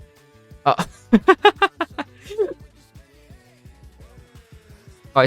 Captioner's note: laughs